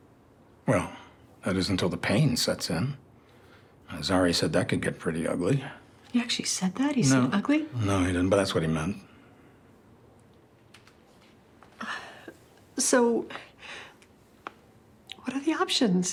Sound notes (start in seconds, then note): 11.8 Grace sighs